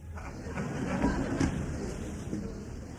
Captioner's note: laughter